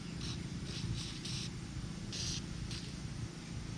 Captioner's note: mist spraying